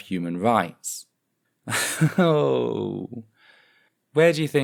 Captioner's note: nervous laughter